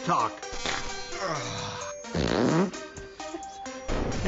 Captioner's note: fart noises